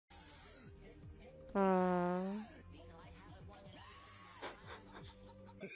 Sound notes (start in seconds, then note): 1.5 prrrrffffff; 4.2 snif, snif